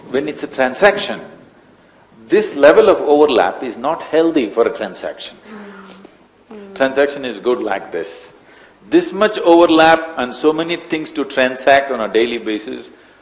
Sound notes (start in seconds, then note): 6.5 laughs